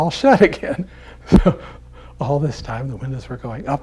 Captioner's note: laughs